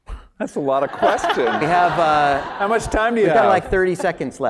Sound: laugh

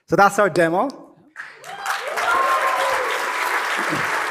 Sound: cheering and applause

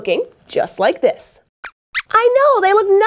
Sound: squeaks squeaks

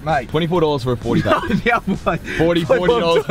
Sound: laughs

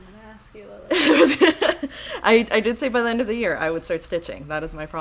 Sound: laughing

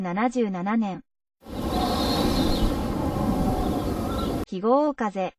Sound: wind sound

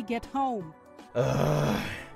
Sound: grumbles

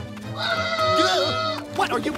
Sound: Space Kid screaming

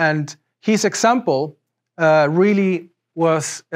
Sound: none

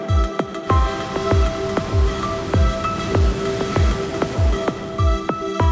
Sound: sound of ocean waves

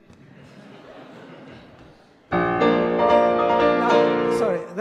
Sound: audience laughs

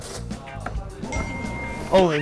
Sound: ring

